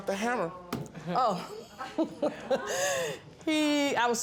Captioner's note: laughs